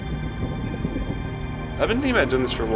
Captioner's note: thunder